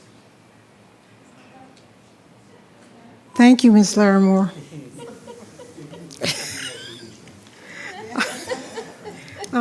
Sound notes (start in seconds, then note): 0.0 speaking faintly; 4.5 attendees laughing